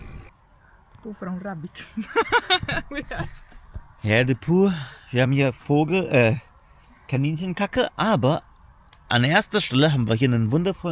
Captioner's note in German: gelächter